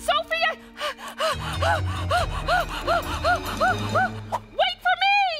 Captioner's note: Blueberry breathing deep